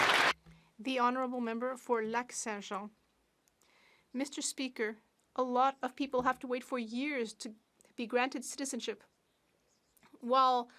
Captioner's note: some Applause